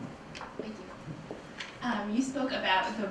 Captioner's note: voiceover